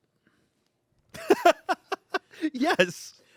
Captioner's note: laughs